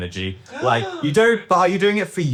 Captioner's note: gasping